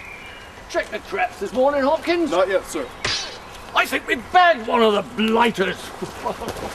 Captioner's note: snap